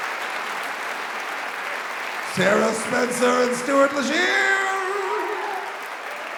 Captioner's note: applause